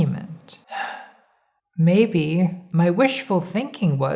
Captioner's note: sighing